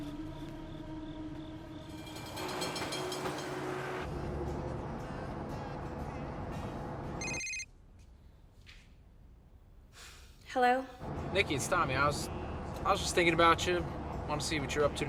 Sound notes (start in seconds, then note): 1.5 tram bell ringing; 7.2 phone rings